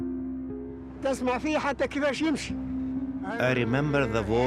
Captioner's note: speaking in foreign language